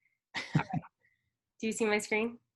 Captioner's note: both chuckle